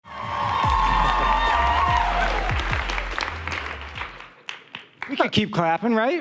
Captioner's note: audience cheering and applauding